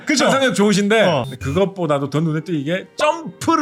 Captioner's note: error sound effect